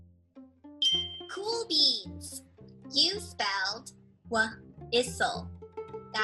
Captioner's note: bell chimes